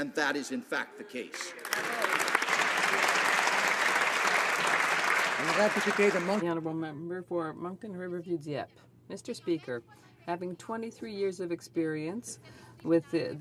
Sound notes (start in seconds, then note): 4.5 applause; 8.5 speaking French